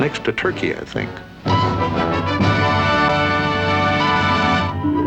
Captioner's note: sonar pinging